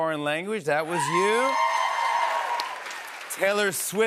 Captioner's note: cheers and applause